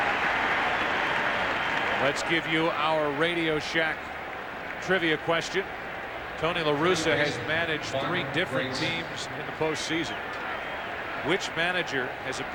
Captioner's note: cheers and applause